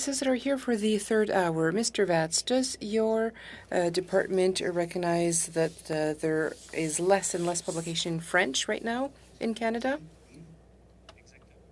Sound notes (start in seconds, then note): 3.3 speaking French